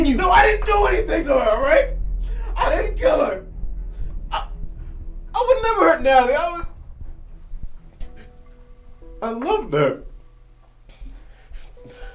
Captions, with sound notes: - No, I didn't do anything to her! All right? I didn't kill her! (sobbing) I would never hurt Natalie! I was... I loved her. (sniffs)